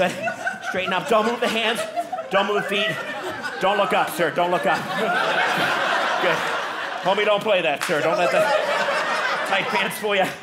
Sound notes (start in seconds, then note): 5.1 audience laughing